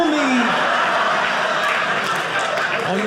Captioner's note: audience laughing